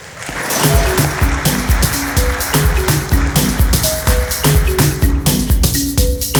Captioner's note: applause